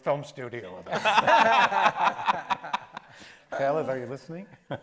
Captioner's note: panel laughs